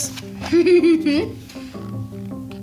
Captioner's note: chuckles; soft music